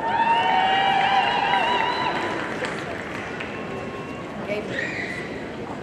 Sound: audience cheering and applauding

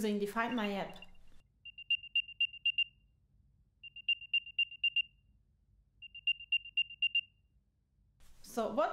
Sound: AirTag localization sound

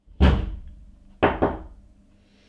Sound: Buddy knocks

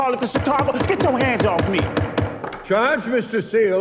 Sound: gavel pounds repeatedly

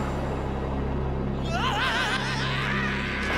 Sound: screaming

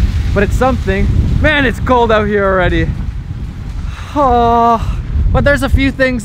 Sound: groans

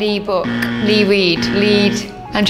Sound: incorrect buzzer

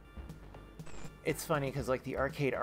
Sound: static

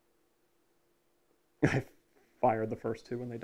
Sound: laugh

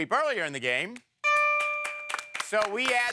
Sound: dings

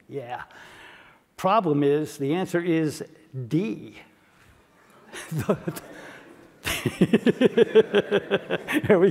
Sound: laugh

